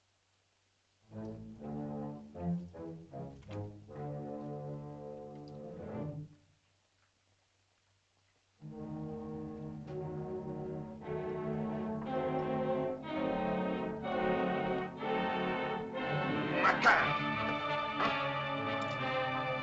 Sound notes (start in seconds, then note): 1.1 ominous music; 8.6 suspenseful music; 16.5 Akhoba speaks in caveman language; 18.0 suspenseful music